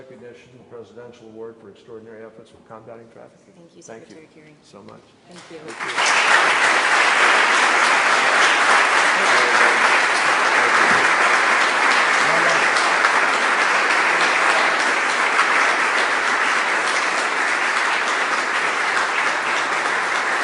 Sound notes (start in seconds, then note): 13.5 applause